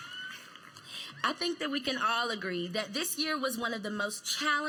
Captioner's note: applause